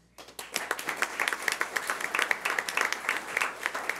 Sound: clapping

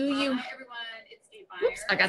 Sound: distant talking

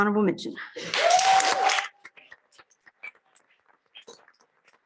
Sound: applause

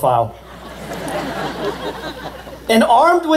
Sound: laughter

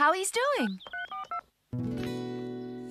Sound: cell Phone Tones

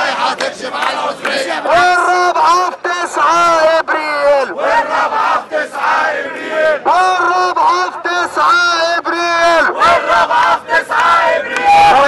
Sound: chants

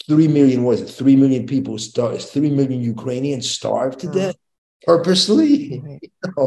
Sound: chuckles

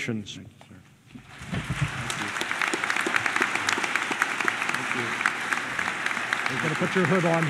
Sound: applause

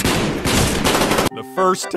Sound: explosions

